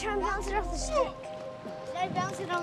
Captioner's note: kids chatter